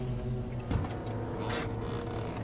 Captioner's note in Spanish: Golpes en la puerta del auto